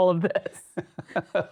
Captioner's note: laughs